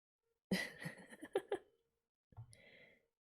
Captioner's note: laughs